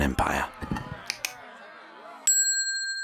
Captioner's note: tongue clicking; bell dinging